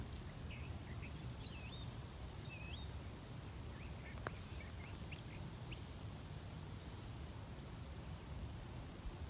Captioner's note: birdsong in background